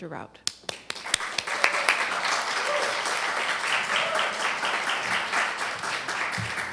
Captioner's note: applause